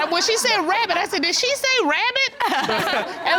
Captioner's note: chuckles